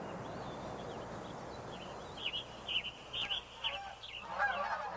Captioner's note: birds chirping